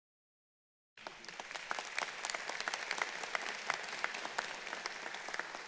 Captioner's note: audience applauding